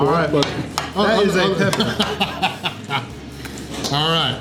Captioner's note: laughing